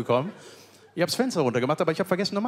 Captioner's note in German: leise